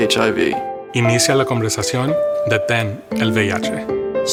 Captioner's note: speaking spanish